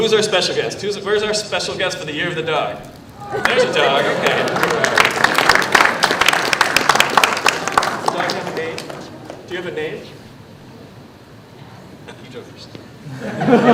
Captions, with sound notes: NOW WHO'S OUR SPECIAL GUEST, WHERE'S OUR SPECIAL GUEST FOR THE YEAR OF THE DOG? THERE'S A DOG. [ APPLAUSE ] DO YOU HAVE A NAME?